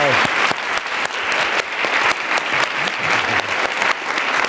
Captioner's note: applause